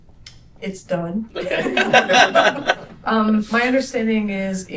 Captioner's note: laughter